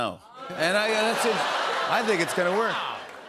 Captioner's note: Russian accent; normal voice